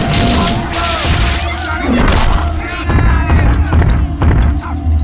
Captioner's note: screams